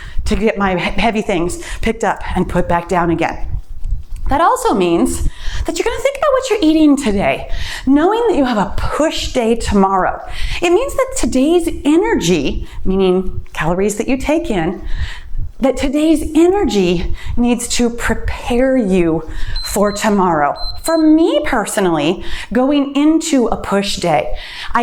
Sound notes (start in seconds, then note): 19.5 timer beeps